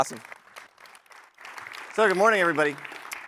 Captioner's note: applause